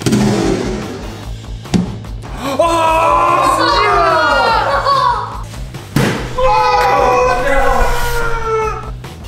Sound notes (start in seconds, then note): 2.8 screams; 6.2 all cheering